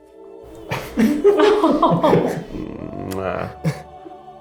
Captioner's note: people laugh